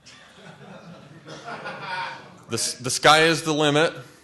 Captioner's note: laughter